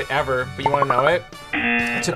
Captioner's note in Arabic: طنين الجرس